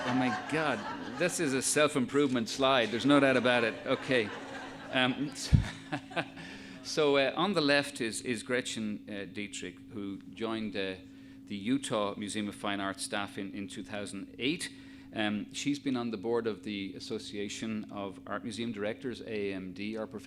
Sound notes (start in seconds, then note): 5.4 laughs